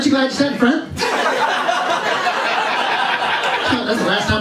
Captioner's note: laughter